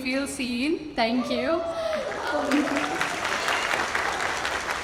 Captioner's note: audience cheers